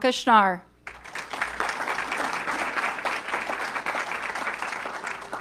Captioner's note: audience clapping